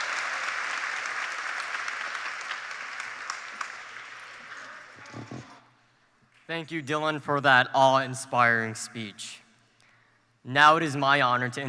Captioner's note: applause